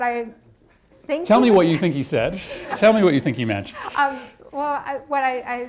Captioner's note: laughter